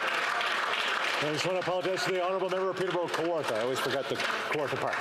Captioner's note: cheering and Applause